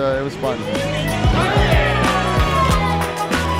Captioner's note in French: acclamations